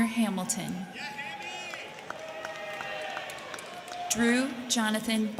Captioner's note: crowd cheering; crowd clapping